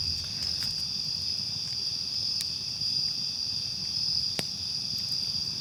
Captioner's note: crickets continue chirping